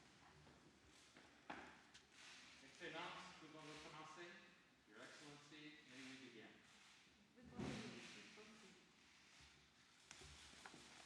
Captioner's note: speaking french